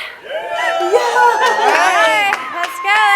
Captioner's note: audience cheers and claps